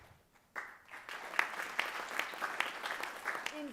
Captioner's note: applause